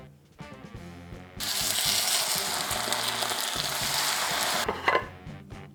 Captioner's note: sizzling sound